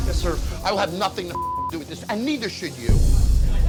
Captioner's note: beep